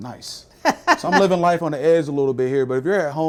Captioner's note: laughing